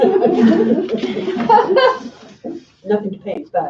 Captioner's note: laughing